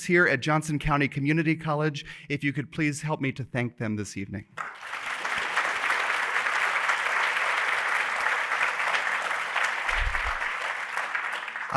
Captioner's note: applause